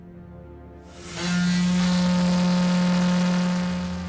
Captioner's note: ferry horn sound